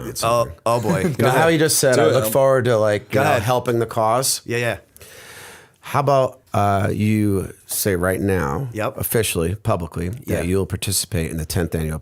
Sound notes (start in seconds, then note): 1.0 chuckle